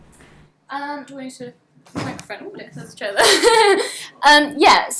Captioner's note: laughs